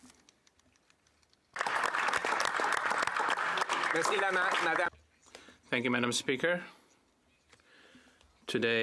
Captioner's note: some Applause